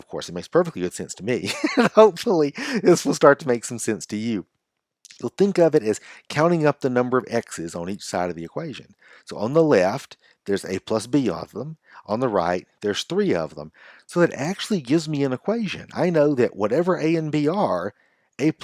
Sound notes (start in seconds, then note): 2.5 laughs